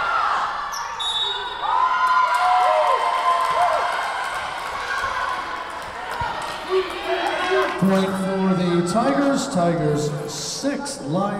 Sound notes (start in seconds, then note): 0.7 whistle blowing; 0.9 Tigers cheering